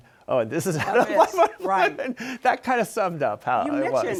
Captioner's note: laughs